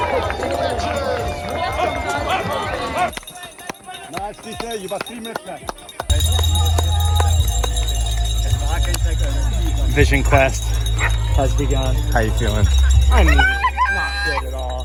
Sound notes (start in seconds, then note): 0.1 crowd cheering; 6.1 loud ringing